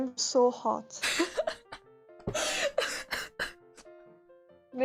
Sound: intense Chuckling

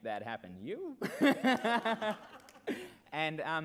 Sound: laughs

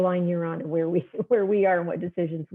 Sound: laughter

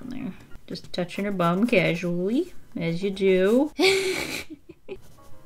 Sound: laughs

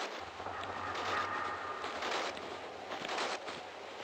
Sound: sounds of thugs

